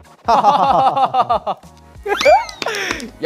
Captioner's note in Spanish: Riendo